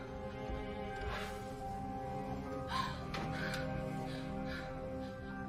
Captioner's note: sobbing